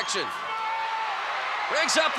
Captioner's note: applause